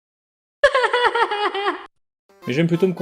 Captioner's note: clown is crying, very sad